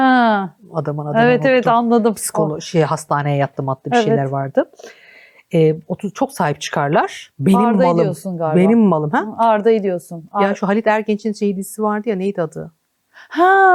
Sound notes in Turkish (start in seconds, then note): 4.9 homurdanır